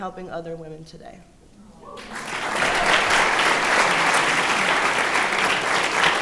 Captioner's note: applause